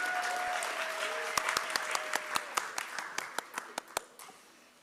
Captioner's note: applause